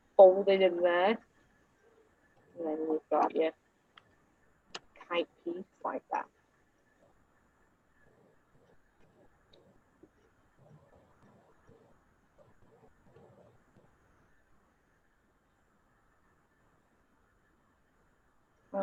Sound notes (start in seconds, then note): 12.0 silence